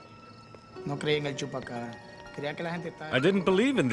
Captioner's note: speaking spanish